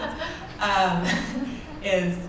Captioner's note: laughter